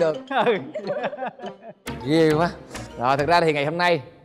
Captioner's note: laughing